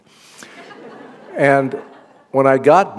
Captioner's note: laughter